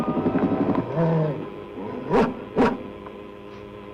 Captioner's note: dog growls